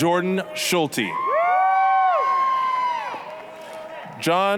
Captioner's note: applause, cheering